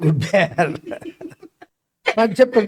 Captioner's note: laughs